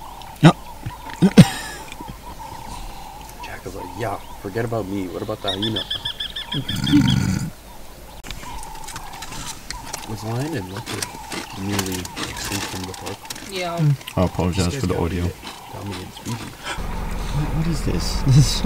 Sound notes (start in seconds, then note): 11.4 belgian chewing sounds